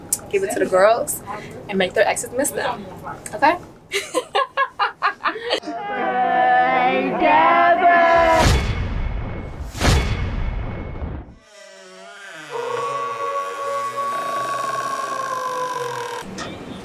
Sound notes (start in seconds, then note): 3.9 laughter; 11.3 door creaking; 11.4 wolf howling